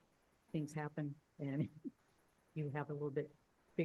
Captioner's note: laughs